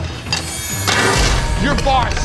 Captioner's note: tray clatters